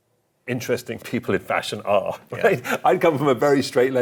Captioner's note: chuckling